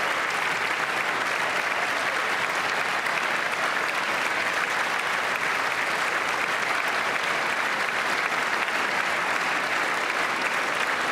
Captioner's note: applause